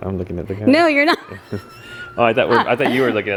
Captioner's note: laughs